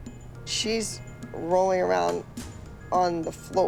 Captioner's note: none